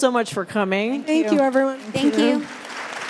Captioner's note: applause